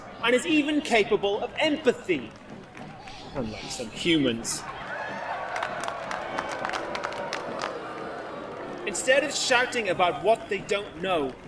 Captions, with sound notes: and is even capable of empathy. Unlike some humans. [ACTIVISTS LAUGH, OTHERS BOO] Instead of shouting about what they don't know,